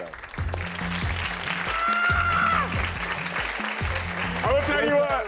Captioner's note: audience applauding